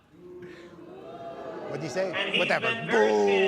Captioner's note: booing